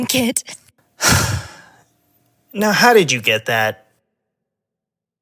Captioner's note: sighs